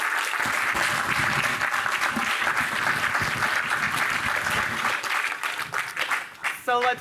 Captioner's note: applause